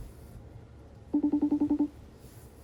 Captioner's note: phone rings